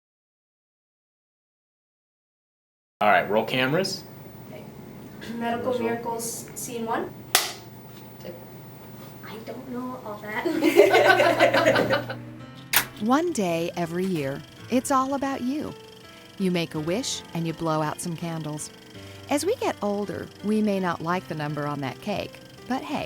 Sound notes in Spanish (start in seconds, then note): 0.0 sin audio; 10.4 Risas